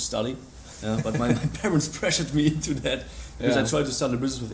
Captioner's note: laughs